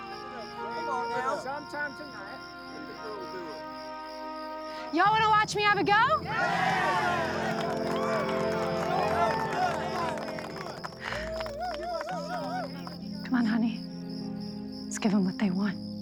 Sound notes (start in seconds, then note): 6.2 crowd cheering